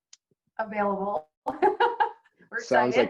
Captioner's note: laughs